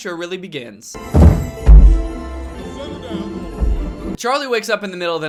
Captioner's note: bumping, yelling and sleigh bells can be heard on the roof